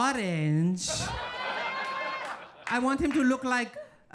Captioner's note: audience laughing